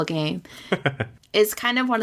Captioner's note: laughs